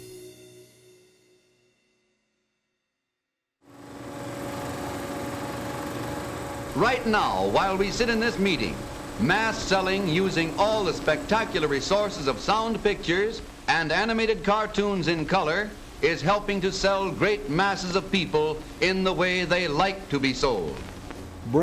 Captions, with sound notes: (old fashioned camera rolling) - [Voiceover] Right now, while we sit in this meeting, mass selling, using all the spectacular resources of sound pictures and animated cartoons in color, is helping to sell great masses of people in the way they like to be sold.